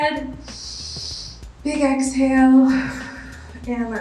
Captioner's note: inhales; exhales